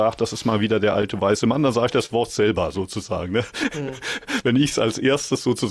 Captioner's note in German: gelächter